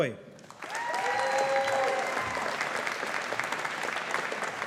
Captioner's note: audience applauding